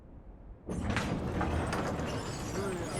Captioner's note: door rumbling, creaking